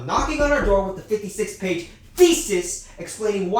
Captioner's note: slaps hand for emphasis